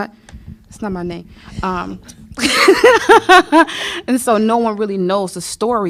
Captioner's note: laughter